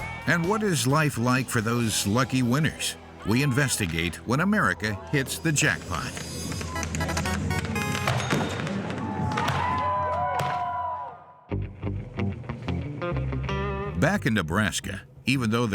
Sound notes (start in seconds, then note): 5.7 fireworks explode; 7.1 hollers; 11.9 dramatic music